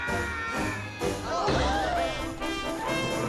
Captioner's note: people gasping